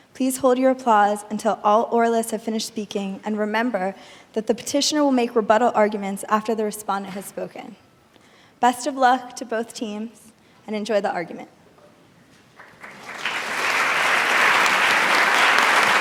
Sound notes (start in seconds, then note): 12.5 audience clapping